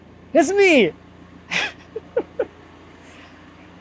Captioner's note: laughing